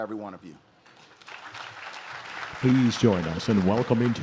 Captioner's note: audience claps